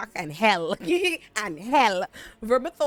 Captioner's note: laughs